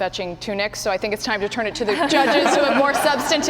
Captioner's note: laughter